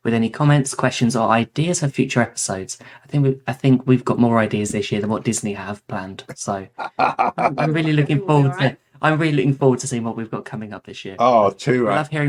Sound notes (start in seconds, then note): 6.2 laughing